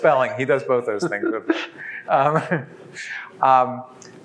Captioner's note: laughs